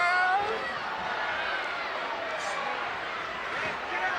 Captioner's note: crowd yelling